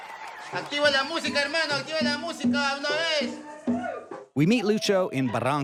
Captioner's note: man speaking foreign language